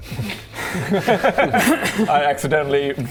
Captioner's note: grateful laughter